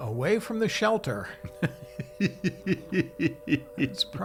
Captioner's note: laughing